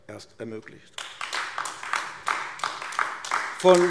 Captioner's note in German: Beifall AfD